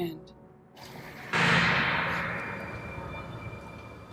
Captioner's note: low clanging sound